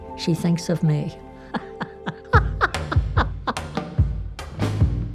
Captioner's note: laughs